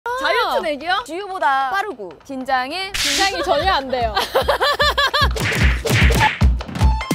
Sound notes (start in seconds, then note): 4.1 hahaha; 5.4 Swish